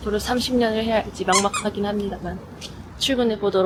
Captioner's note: comical sound effect